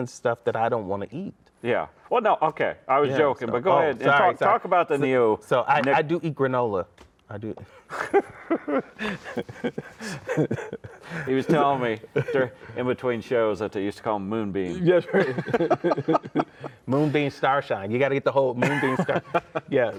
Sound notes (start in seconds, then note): 7.6 laughing; 14.8 laughing